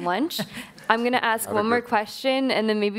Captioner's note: laughing